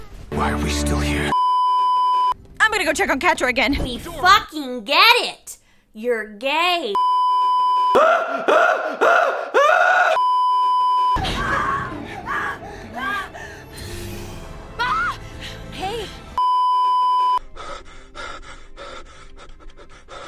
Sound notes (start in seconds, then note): 1.3 beeeeeeeeeeeep; 7.0 beeeeeeeeeeeep; 7.9 screaming in previously on She-Ra; 10.2 beeeeeeeeeeeep; 11.2 screaming and panting; 16.4 beeeeeeeeeeeep; 17.4 cursed heavy breathing